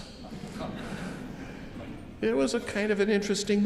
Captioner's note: audience chuckle